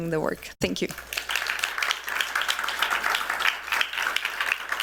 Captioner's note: applause